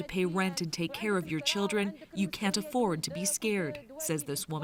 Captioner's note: speaking Foreign Language